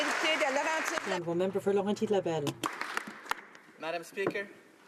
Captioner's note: applause